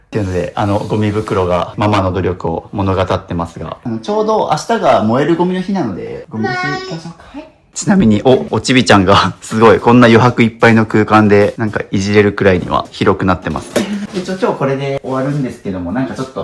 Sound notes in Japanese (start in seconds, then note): none